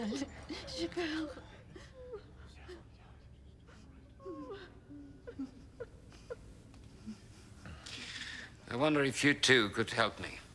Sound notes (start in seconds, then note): 0.0 woman sobbing